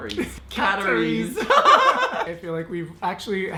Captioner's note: laughing hysterically